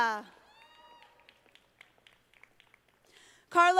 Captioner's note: audience applauding